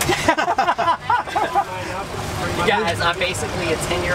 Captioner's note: laughter